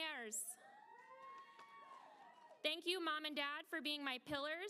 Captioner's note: applause